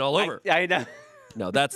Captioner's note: laughs